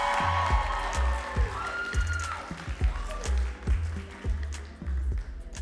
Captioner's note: audience cheering and clapping